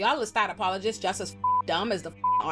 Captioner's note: beep